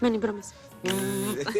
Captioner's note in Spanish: Zumbido; Risas